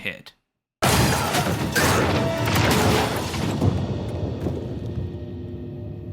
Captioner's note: sound of jeep crashing and Nate yelling